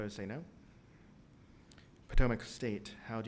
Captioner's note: silence